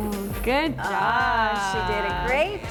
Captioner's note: blowing lips